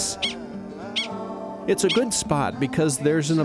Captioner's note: prairie dog chirping